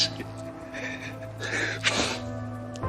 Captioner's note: rafael sobbing